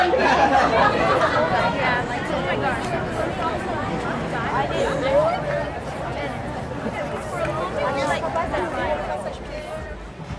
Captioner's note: crowd murmurs